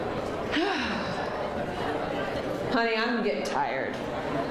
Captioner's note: sighs